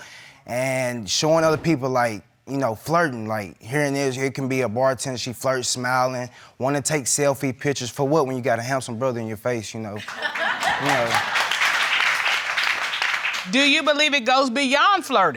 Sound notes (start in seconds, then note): 10.0 crowd cheering and laughing